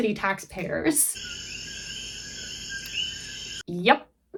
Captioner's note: coqui frog sounds